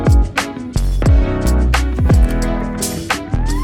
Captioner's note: quick footsteps